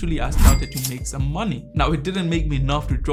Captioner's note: cash register chimes